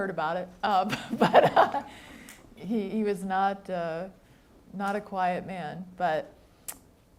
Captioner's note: laughs